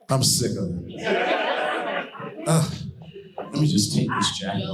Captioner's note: audience laughing